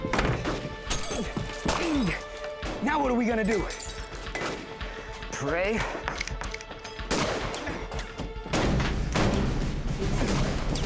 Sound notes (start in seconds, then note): 0.0 gunfire; 0.8 glass shattering; 7.0 gunfire